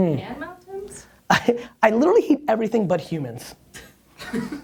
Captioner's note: laughs